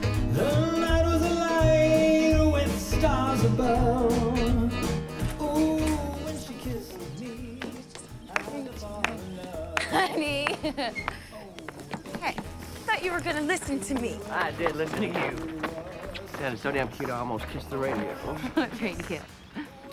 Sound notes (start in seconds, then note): 8.3 clapping